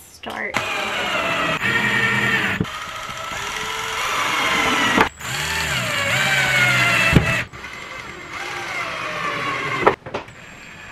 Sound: drill buzzing

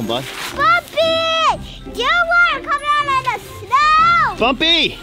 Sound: yells

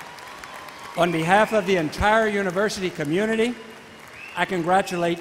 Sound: voiceover

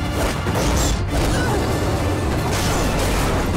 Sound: grunting

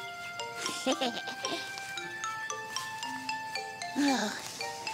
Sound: Tobee laughing

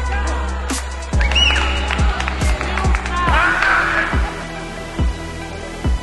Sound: cheering

